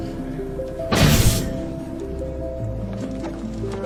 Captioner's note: explosion booms; bright ethereal music